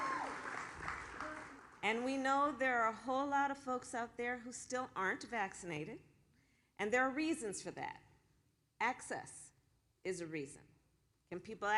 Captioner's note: applause